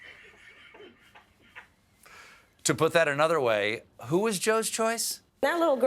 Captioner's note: laughter